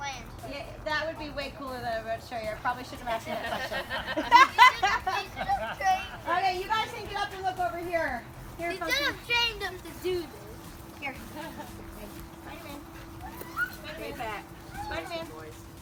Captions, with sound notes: - That would be way cooler than what I'm about to show you. I probably shouldn't have asked that question. (laughter) Okay, you guys can get up and look over here. - You should've trained him to do this. - Okay, spiderman, spiderman, spiderman.